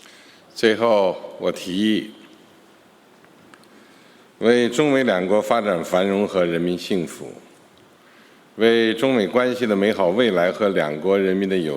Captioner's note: speaking Mandarin Chinese